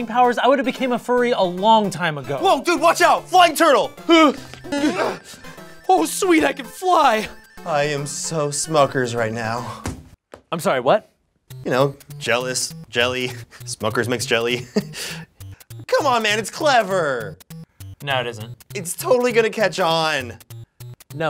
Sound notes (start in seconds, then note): 4.6 Ian whimpers; 4.6 boing!; 14.3 chuckles